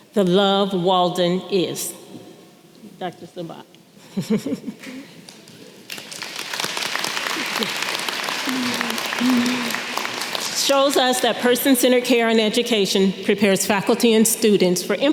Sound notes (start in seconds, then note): 4.1 chuckles; 5.8 audience clapping